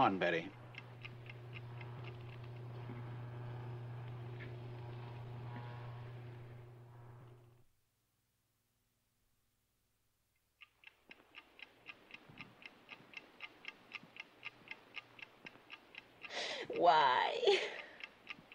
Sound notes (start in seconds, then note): 2.5 lights buzz; 10.5 clock ticking